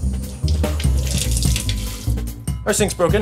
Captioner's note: faucet running; upbeat percussive music